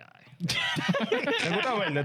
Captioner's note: laughing